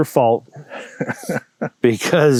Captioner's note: laughing